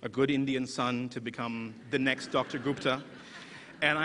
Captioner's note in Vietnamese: Cười